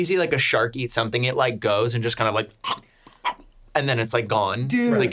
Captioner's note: chomps